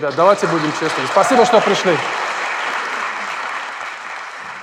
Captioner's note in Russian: аплодисменты